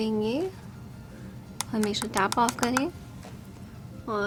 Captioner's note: taps brush